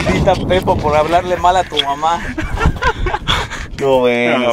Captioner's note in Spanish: risas